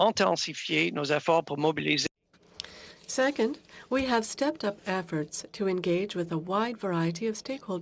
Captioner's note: speaking French